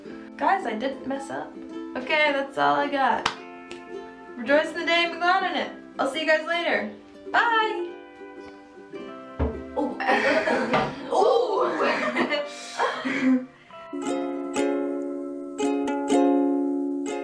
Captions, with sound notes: Guys I didn't mess up! That's all I got *claps* rejoice in the day and be glad in it! I'll see you guys later! Bye! *BANG* oo OH! haah